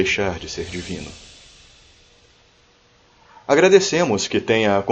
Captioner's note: classical Silence